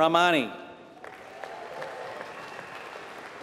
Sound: applause

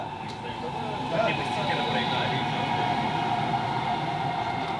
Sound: players chattering; train whooshing

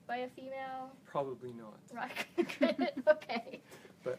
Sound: both laugh

